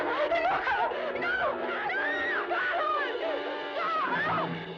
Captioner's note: screaming